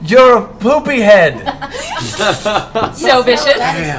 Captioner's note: laughter